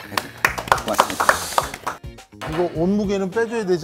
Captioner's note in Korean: 박수